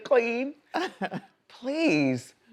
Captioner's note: woman laughs